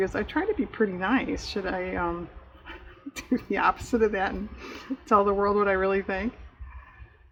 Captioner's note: laughs